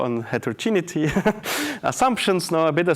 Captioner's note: laughs